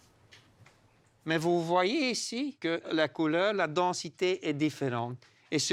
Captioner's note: French spoken audio